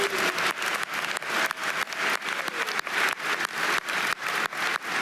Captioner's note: audience applauding